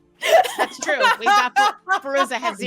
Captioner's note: laughing